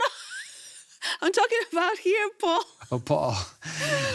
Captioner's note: laughs